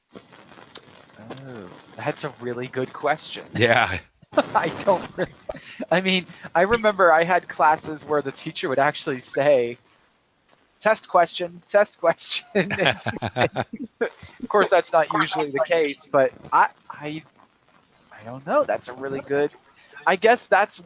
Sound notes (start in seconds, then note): 12.5 laughter